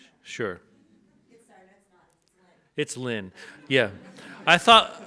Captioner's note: audience laughs